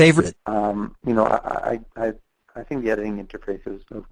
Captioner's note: voiceover